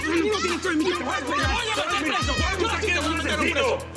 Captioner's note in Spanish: Grito ahogado